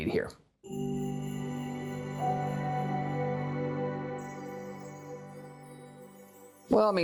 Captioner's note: chime Sound